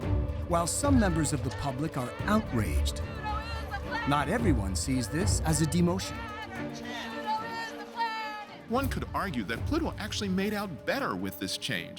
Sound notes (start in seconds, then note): 7.3 crowd chanting